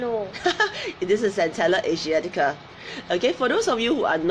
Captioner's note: laughs